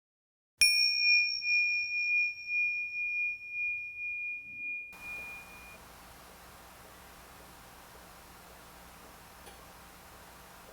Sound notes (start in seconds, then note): 0.6 bell chimes